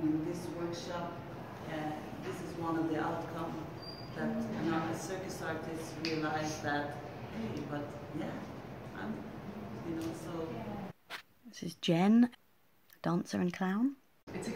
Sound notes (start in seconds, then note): 9.7 clicks mouth